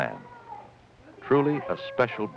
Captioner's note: children fussing